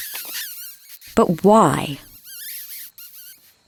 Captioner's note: lips smooching